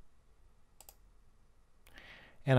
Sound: clicking

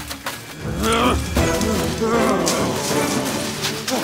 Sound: grunting

